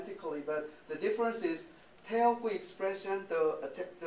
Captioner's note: speaking japanese